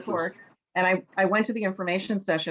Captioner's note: laughs